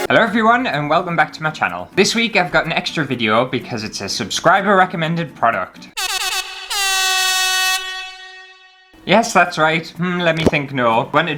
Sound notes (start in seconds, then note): 5.9 air Horn Sounds